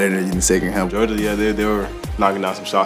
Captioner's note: voiceover